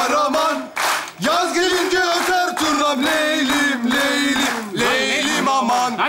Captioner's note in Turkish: Seyirci alkışla eşlik eder